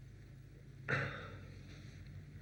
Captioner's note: sighs